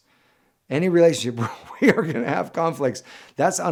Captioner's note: chuckles